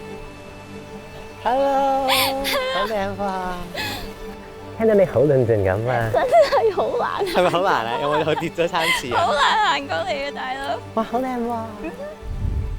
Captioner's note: speaking Cantonese